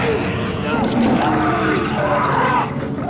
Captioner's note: grunts; shrieks